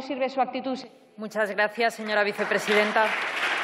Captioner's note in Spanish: Aplausos